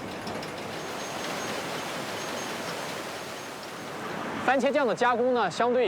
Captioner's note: water rushing; speaking in foreign language